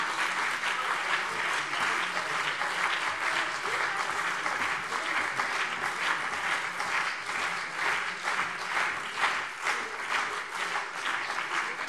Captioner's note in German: Beifall CDU und BÜNDNIS 90/DIE GRÜNEN - Zurufe SPD